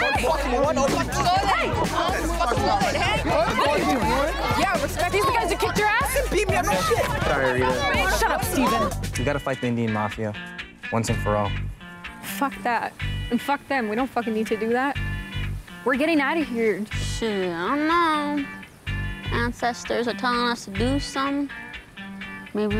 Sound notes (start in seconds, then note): 3.0 commotion